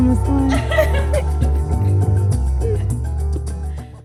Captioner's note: laughing